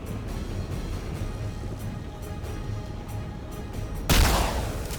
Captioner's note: dramatic music; gun firing; dramatic music